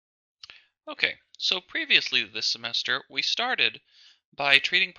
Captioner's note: voiceover